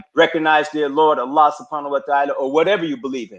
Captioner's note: speaking in a foreign language